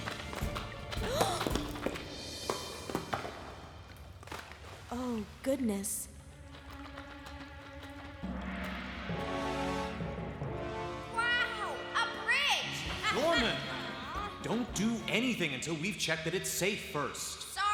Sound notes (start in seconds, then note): 0.0 rock Clatters; 1.0 Penny Gasps; 6.6 suspenseful Music